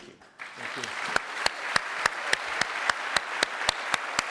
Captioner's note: audience applauds